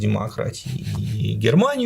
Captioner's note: chuckles